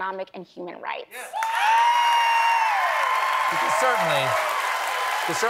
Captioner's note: cheers and applause